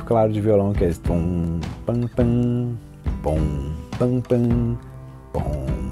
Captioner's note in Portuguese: imita riff de violão